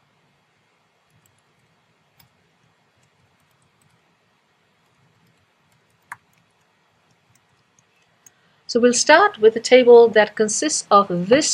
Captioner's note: pause